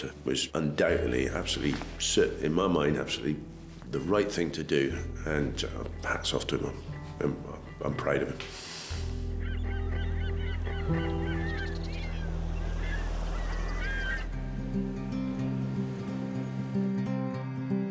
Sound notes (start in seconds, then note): 8.8 birds chirping; 10.8 gentle music